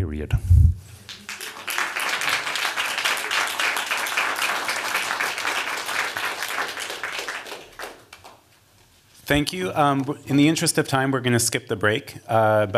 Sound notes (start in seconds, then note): 1.0 applause